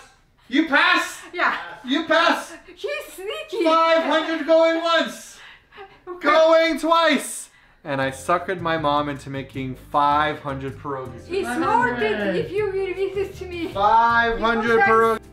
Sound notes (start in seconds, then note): 2.2 laugh